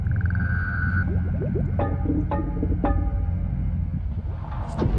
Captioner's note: Submarine and bubble sounds